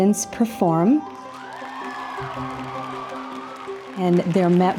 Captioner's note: audience cheering